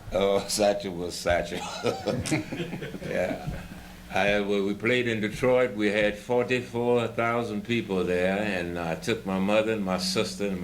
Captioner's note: laughter